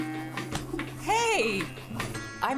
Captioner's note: tail thumps